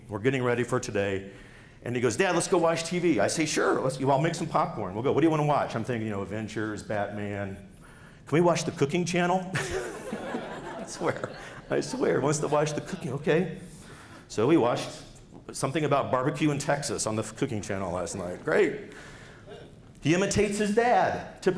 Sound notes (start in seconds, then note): 9.6 laughs